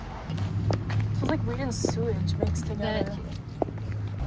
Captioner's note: talking